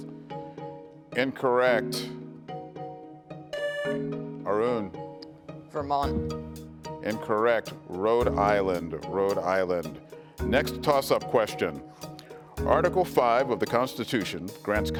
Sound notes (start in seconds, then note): 3.5 tone sounds